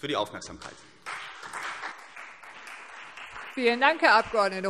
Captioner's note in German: Beifall CDU